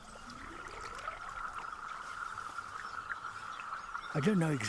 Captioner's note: pulsing chirp-like sounds